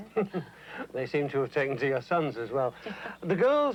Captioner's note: laughs